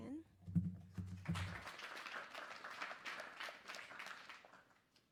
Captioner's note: applause